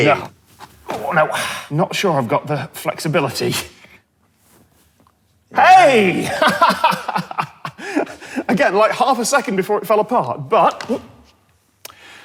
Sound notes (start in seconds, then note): 6.0 laughs